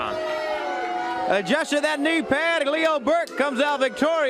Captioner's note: crowd chatter